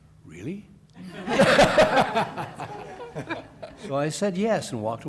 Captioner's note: laughter